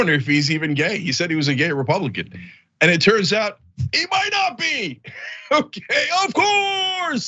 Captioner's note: laugh